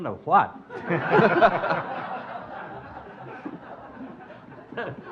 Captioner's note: audience laughing